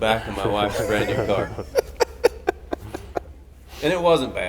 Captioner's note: everybody laughing